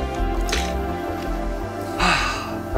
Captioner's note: pencil clicking; sighing